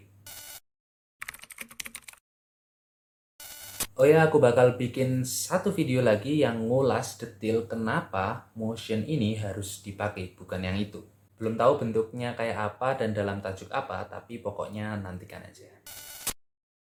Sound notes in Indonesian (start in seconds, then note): 0.3 suara interferensi; 1.2 suara mengetik; 3.4 suara interferensi; 15.9 suara interferensi